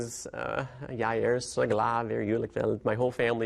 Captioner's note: speaking in Norwegian